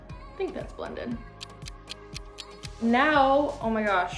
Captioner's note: ticking